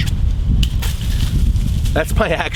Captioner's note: leaves rustle